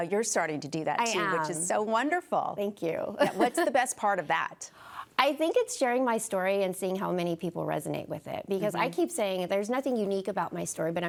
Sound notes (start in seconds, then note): 3.2 laughs